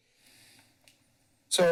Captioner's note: breathes steadily